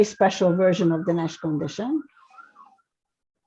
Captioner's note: siren wails